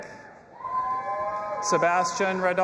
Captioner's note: audience applauding and cheering